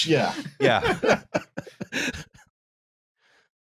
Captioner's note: laughter